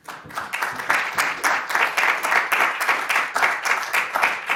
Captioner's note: attendees applauding